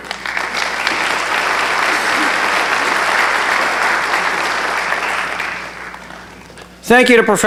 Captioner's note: applause